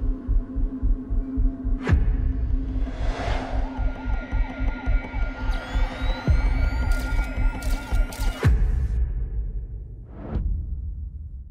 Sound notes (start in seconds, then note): 3.2 sirens wail; 5.6 camera powers up; 6.8 camera clicking